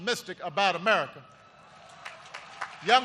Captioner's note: applause